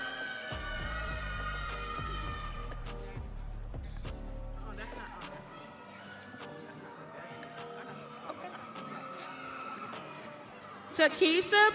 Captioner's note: audience cheering